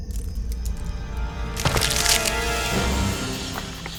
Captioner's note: twigs breaking